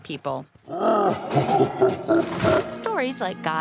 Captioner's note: laughing